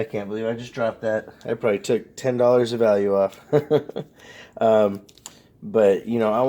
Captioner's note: laughs